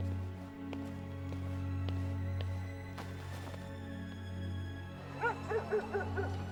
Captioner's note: footsteps receding; gentle music; dog barking